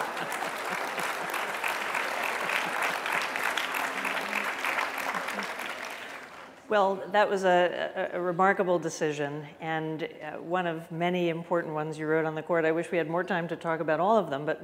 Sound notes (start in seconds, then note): 2.2 applause